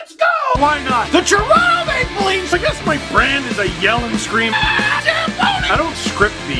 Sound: rock music plays throughout intro; screams

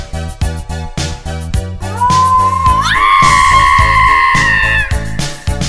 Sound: autistic screech

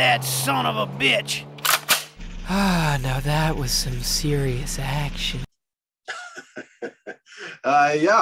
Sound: laughing

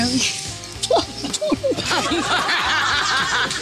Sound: laughter

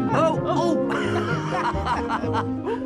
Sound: laughing

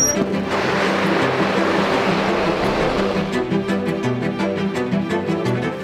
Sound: dramatic music continues; gear scraping

